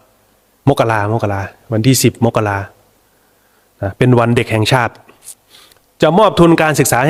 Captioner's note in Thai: เสียงสูดหายใจ